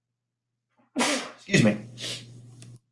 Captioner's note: sneezes